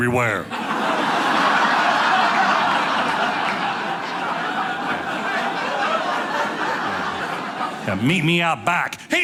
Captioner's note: audience laughing